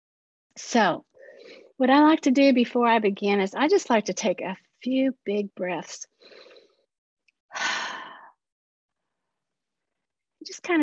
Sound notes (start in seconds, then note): 6.1 breathes in; 7.6 exhales sharply